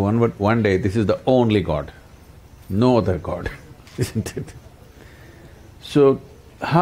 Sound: laughs

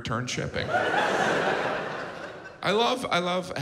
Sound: audience laughs

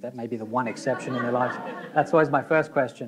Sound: audience laughing

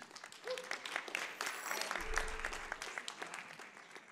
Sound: audience applause

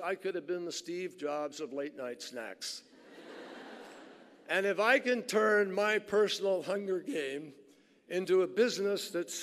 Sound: laughter

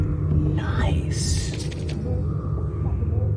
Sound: scuttling

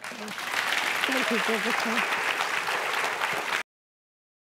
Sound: applause

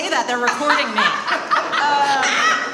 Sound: laughs

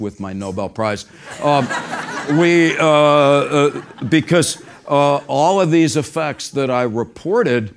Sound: laugh

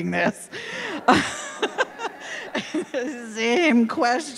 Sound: laughing

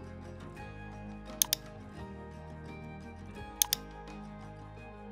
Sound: gentle music; mouse clicking

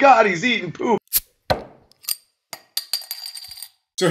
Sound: bottle Open Sound

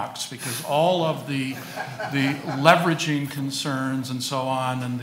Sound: audience laughing

